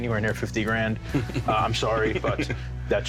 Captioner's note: laughs